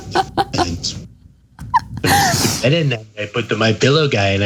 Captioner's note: laugh